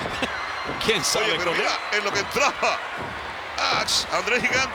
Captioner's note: laugh